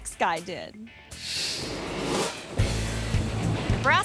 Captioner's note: screen whooshes